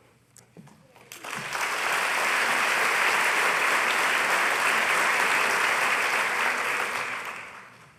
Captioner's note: applause